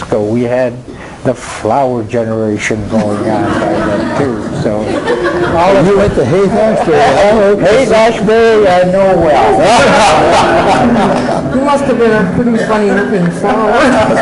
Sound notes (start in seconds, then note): 2.9 laughing